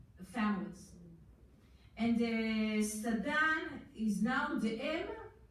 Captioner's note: foreign language